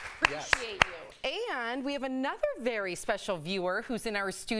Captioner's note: applause